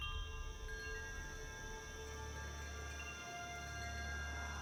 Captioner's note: wind chimes